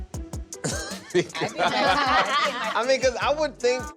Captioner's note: laughter